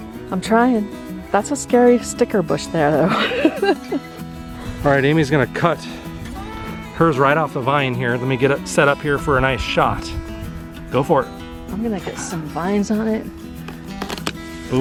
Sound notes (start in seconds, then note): 3.0 laughter